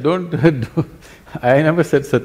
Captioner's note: laughs